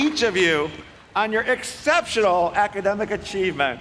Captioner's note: applause